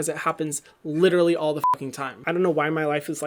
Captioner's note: beep